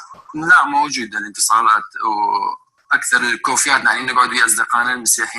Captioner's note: man speaking foreign language